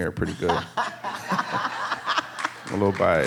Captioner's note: audience laughing